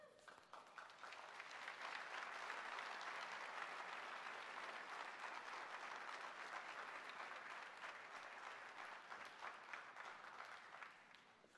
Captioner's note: clapping